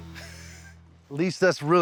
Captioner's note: laughs